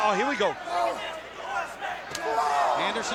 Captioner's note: strap thudding